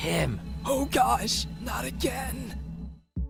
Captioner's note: whispering